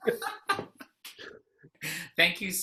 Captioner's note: laugh